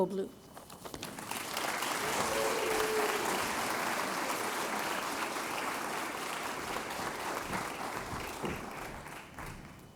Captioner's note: applause